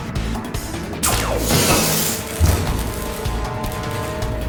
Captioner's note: grunt; heavy drop on the ground